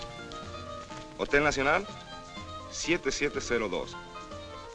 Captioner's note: speaking spanish